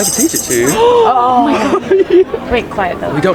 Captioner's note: audience gasping